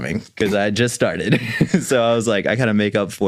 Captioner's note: chuckles